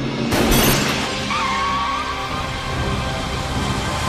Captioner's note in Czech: skřípot pneumatik